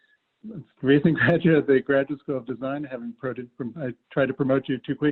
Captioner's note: laugh